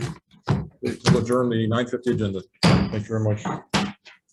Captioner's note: gavel bangs